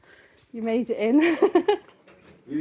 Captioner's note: laughing